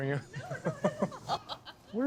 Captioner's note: laughing